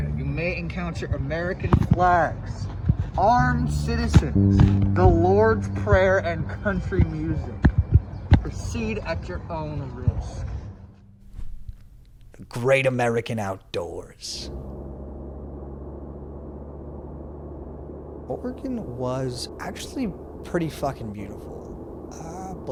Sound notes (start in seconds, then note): 16.1 engine hums